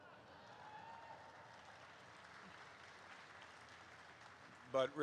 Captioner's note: crowd cheers